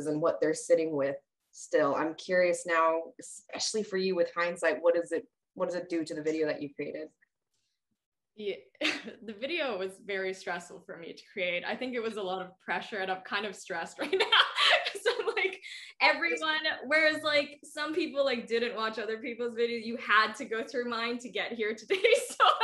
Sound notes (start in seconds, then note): 14.1 laughs